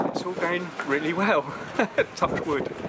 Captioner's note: laughs